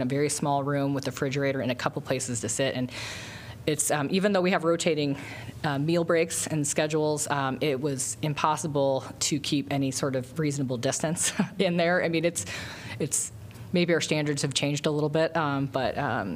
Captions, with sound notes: a very small room with a refrigerator and a couple of places to sit. And it's-even though we have rotating, um, meal breaks and schedules, um, it was impossible to keep any sort of reasonable distance [LAUGHTER] in there. I mean, it's- it's maybe our standards have changed a little bit, um, but uh,